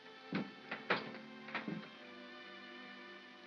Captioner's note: door opens